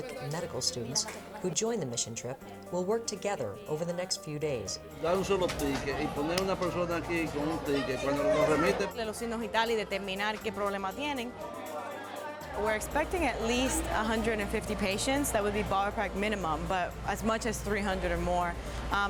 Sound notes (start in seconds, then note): 5.3 speaking in Spanish